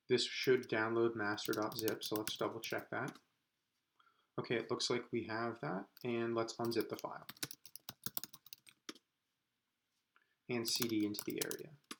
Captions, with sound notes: This should download master.zip so let's double-check that. Okay, it looks like we have that and let's unzip the file, (typing) and CD into the area.